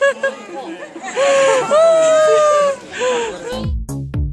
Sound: laughs

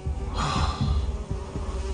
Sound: sighs

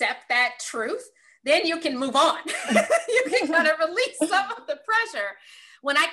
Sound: laugh

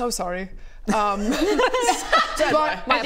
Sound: snickering

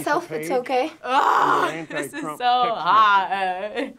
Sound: groaning

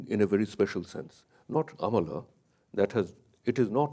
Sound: speaks in a foreign language

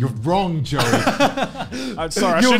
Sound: laughing

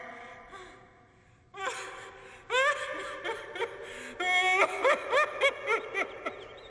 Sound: sobbing

